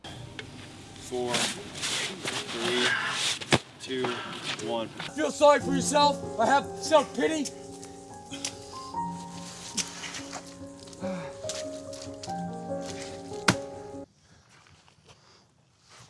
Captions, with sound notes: "Four." "Three." "Two." "One." "Feel sorry for yourself or have self pity?" [quiet sounds of exertion and puddle splashing]